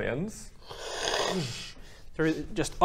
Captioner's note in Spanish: ttsscccshhhh